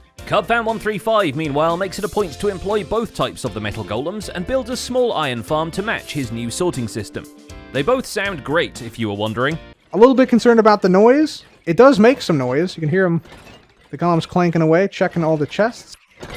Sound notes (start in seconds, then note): 9.8 many copper golems moving